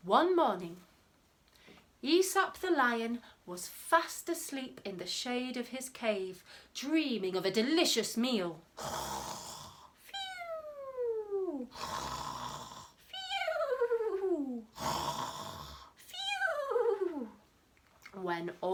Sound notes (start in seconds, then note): 8.6 snoring